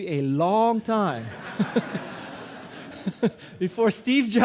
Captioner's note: audience laughing; guy laughing